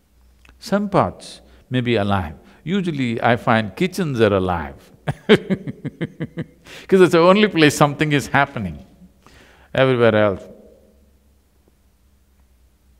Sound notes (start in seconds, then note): 5.0 laughs